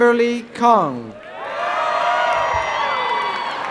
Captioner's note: cheering and applause; laughter and cheering